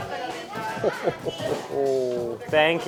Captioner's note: laughing